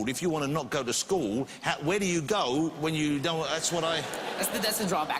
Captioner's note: laughter